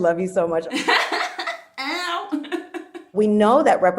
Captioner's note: laughs